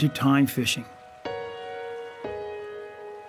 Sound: river running sounds

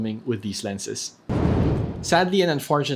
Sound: air whooshing sound effect

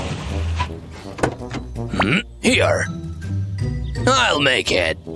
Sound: groans

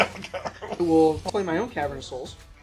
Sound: laughing

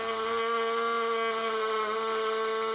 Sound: whirring

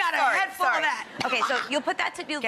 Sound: coughs

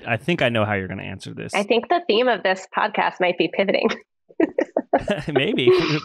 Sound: laughs

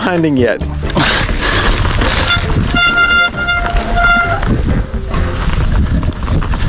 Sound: bike rolling through the dirt

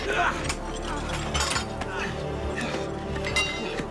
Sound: groaning

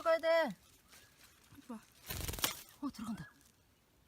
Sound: the flutter of wings

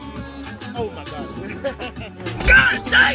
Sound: laughs hysterically...and in pain

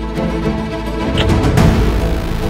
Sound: sound of kissing

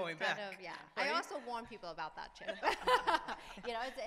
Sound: laughs

